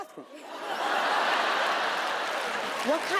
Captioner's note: audience laughing